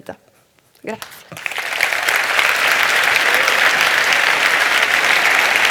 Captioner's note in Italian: Applausi